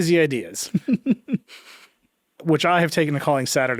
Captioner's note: chuckling